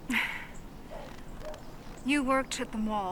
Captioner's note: sighs